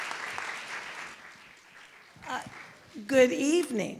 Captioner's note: applause